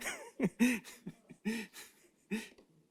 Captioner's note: laughs